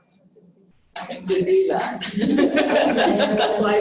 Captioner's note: laughing